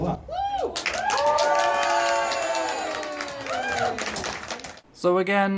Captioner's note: audience starts cheering